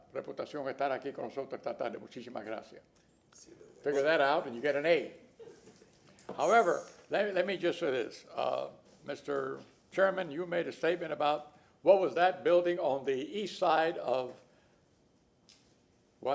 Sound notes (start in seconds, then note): 2.9 speaking spanish